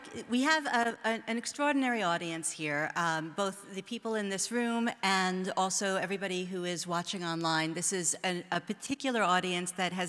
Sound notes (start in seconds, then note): none